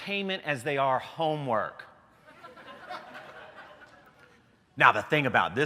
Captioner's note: laughter